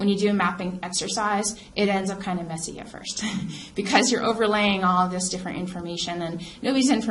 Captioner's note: laughs